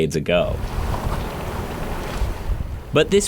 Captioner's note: water lapping